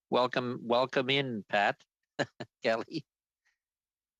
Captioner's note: laughter